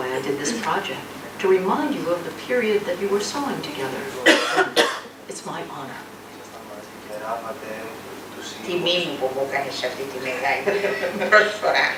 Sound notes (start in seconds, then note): 5.0 grandmother speaks in Greek; 10.7 laughs